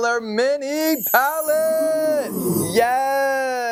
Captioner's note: palette twinkling